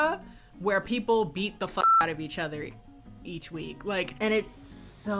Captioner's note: beep